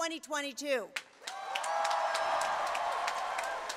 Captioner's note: applause